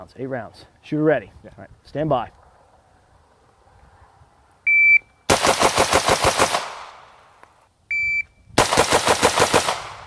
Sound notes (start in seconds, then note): 4.6 beeps